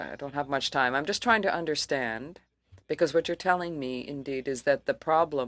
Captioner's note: speaking French